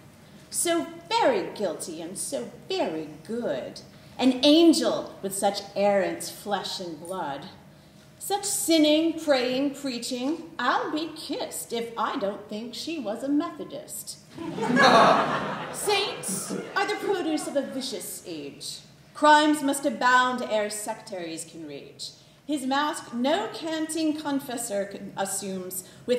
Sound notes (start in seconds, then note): 14.3 laughter